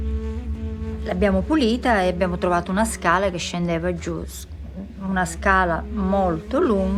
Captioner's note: speaks in foreign language